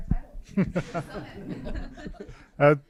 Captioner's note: laughs